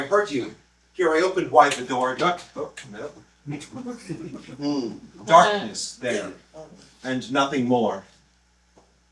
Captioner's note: laughter